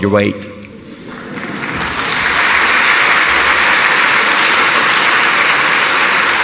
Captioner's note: applause